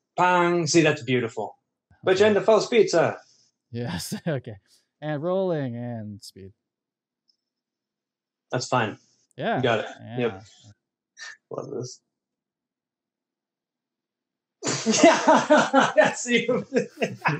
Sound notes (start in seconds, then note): 0.1 vocalizes; 11.1 chuckles; 14.7 laughs